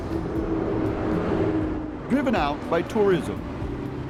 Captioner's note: sound of bus passing